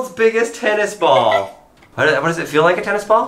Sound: laughs

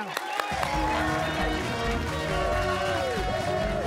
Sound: cheers and applause

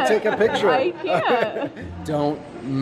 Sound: chuckling

